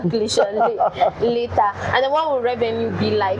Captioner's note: laughs